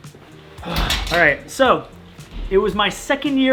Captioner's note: metal clanking